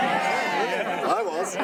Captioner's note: crowd